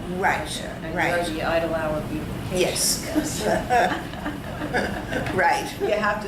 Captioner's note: all laugh